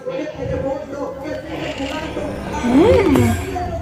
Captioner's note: muttering